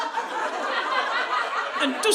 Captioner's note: audience laughing